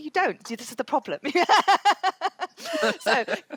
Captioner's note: laughs